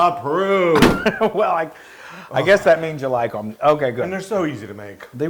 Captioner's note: laugh